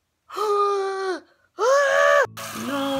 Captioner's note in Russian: вздыхает от своей криворукости; кричит